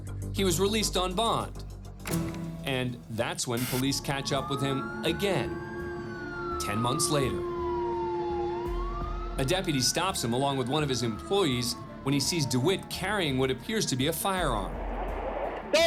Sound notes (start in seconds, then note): 8.1 sirens